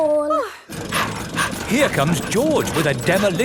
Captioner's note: daddy pig panting